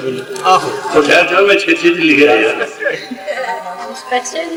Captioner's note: laugh from behind